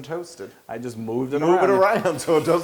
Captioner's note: laugh